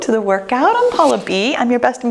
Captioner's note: swoosh